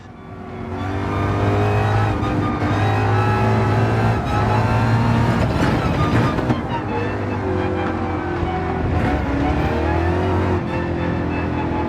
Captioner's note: engines revving, cars noises